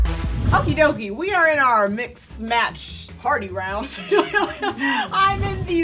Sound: upbeat music; laughs

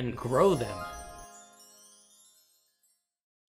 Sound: magical chimes

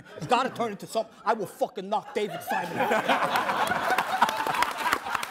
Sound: all laughing

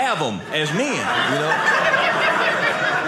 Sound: audience laughing

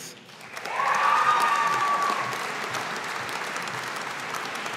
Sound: audience applauding

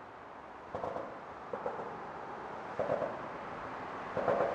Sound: train passing

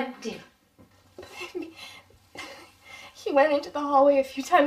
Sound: sobbing

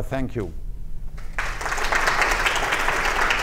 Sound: applause

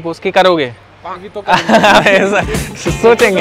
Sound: laughing

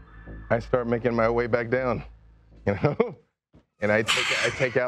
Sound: laughs

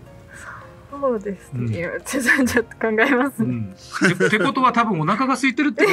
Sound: laughs

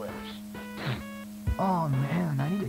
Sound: sniffs

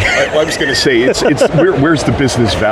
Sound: laughs

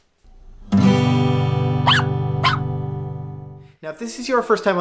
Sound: guitar chord; dog barking

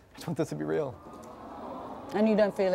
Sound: audience moans with sympathy

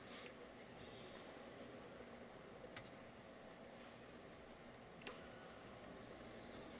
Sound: none

